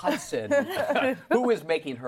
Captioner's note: laughter